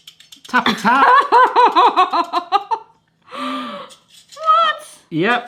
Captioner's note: gasps